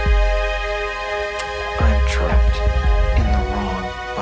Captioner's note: static fizzling